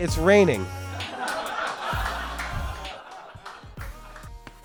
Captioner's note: audience laughter